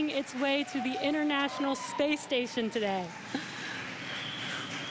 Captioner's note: cheering and Applause